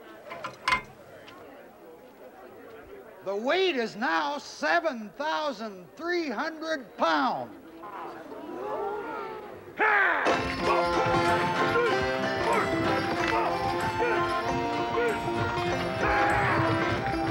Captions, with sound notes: (weight clinking) - The weight is now 7,300 pounds. (crowd murmuring) - Hah! Pull! Pull! Hah-ya!